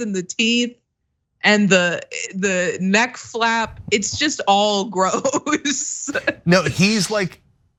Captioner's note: laugh